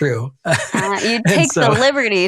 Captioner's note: laughs